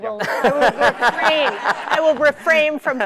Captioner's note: laughter